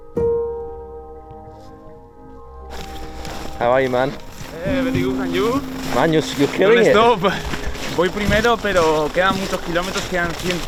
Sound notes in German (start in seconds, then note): 4.7 spricht in einer Fremdsprache